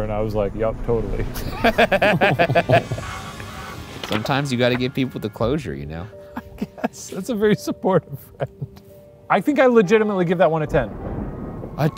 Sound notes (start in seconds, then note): 1.3 laughing; 6.2 laughing